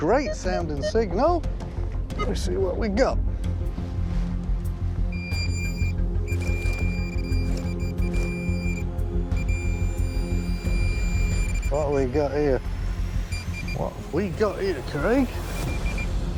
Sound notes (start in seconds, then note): 5.8 beeping